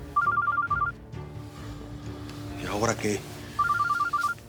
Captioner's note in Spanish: suena el celular